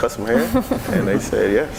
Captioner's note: laughing